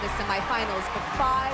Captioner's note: cheers and applause